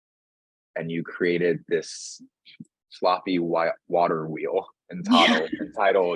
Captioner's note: laughing